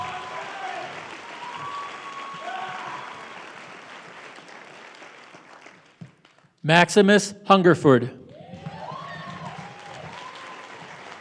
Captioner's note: applause